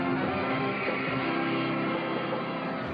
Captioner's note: crowd cheering